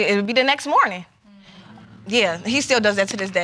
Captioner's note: audience murmuring